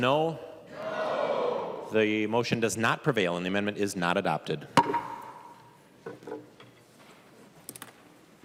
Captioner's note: chorus of ayes